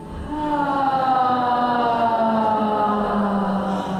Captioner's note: loud sighing